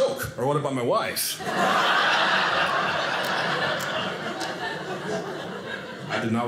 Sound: audience laughing

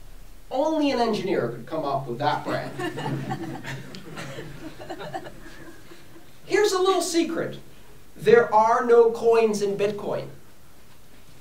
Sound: laughter

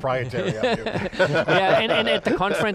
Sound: all laughing

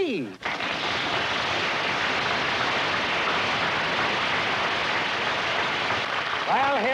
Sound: applause

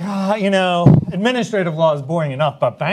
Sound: panelists laugh; sighs

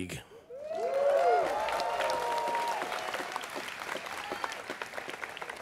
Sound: students cheering

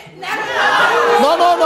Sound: audience shouts

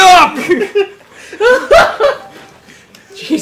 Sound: laughs

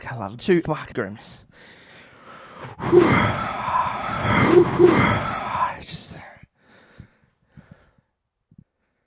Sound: heavy breathing

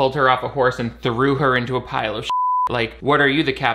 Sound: beep

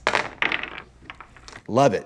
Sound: dice rolls

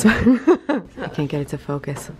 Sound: giggles

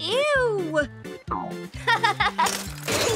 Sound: laughing

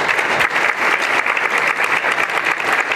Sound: applause

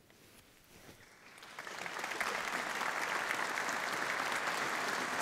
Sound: audience applauding

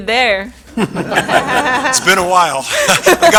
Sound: laughter

